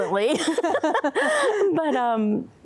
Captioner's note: laughing; laughter